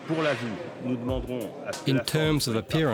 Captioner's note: speaks french